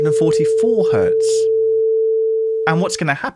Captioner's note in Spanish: tono